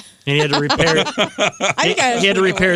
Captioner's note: laughing